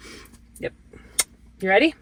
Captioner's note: smooches